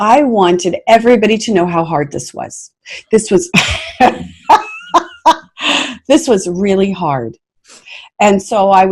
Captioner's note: laughing